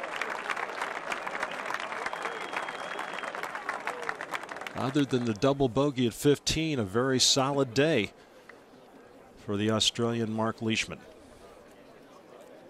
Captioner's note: cheers and applause